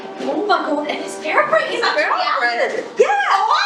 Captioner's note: muffled Chatter